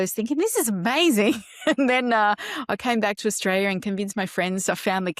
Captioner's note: laughs